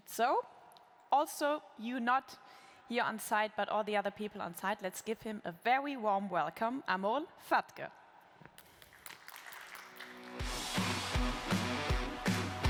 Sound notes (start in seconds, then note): 8.6 applause